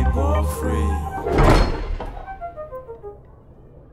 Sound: thudding

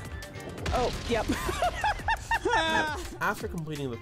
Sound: laughter

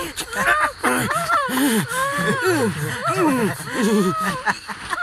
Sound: moaning

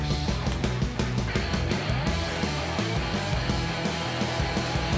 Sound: machine hissing

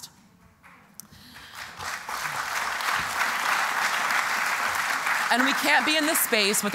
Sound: applause

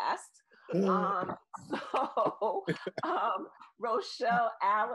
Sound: laughs

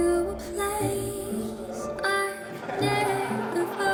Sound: soft music continues; chatter, laughter

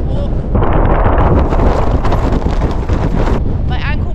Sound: crazy wind

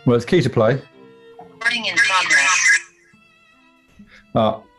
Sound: echoing zoom alert

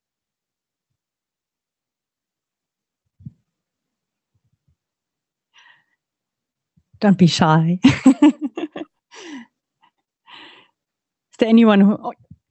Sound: chuckling

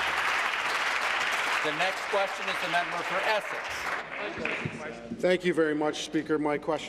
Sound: applause

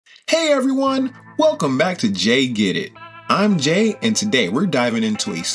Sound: enthusiastically

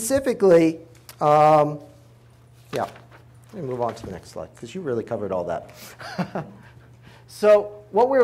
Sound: chuckles

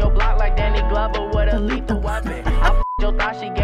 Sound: chuckles

